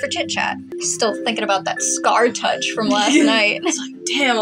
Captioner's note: chortle